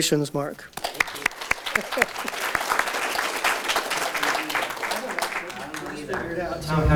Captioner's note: audience Applause